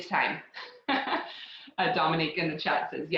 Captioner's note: laughs